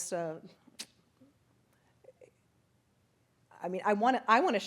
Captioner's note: clicks tongue